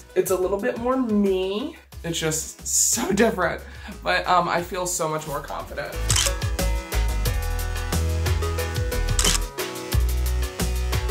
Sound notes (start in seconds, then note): 6.2 camera snaps